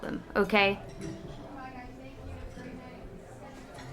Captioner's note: plates clattering and conversations in background